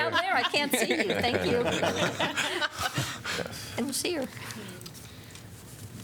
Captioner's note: laughter